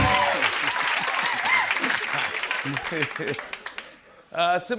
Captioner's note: chuckling